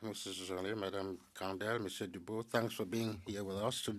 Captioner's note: speaking French